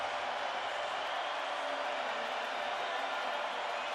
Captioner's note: cheering